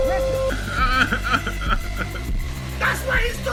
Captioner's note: laughs